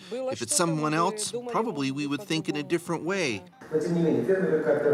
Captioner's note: speaking foreign language